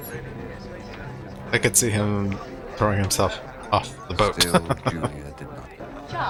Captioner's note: laughing